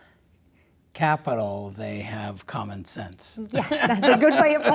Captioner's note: laughs